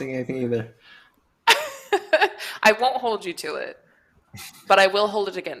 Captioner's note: laughs